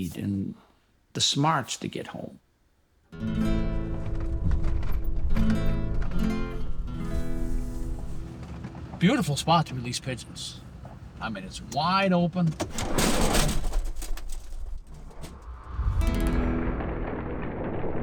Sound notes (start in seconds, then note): 3.1 classical guitar music; 12.4 crate clattering; 16.0 guitar music continues